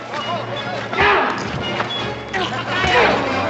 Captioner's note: shouting